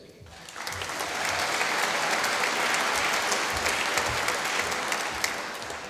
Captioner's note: applause